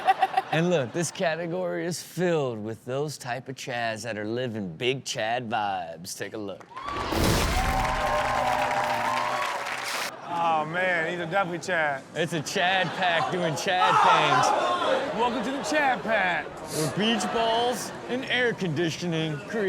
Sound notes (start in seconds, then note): 7.5 audience applauding; 13.5 exclaiming